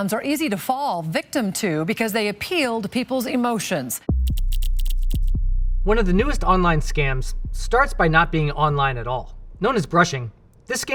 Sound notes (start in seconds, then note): 4.1 intense music; 4.2 graphics clacking